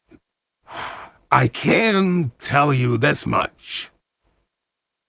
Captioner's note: sighs